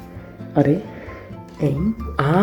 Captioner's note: japanese confusion